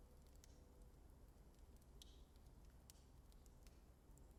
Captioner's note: flames crackling